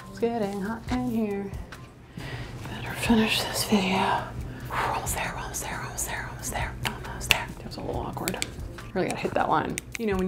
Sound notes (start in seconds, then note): 4.3 exhales